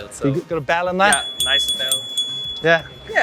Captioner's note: bell chiming